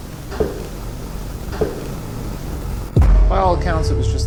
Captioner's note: footsteps clacking